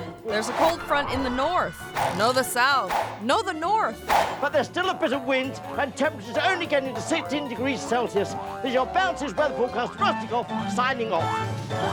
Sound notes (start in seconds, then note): 3.5 whooshes